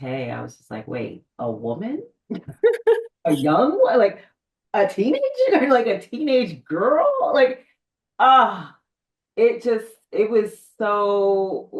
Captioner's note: both laugh